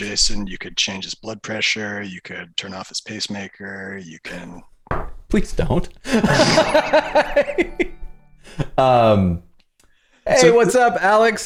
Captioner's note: laughter